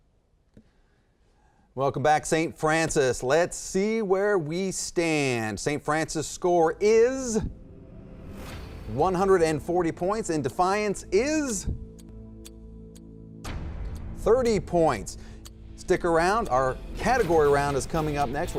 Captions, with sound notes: Welcome back, St. Francis. Let's see where we stand. St. Francis' score is (building dramatic sound) 140 points, and Defiance is (slow, tense music) (clock ticks) (boom) 30 points. Stick around, our category round is coming up next